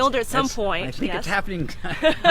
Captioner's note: laughs